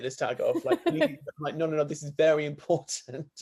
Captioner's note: laughs